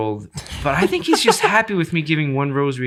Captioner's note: innocent laughing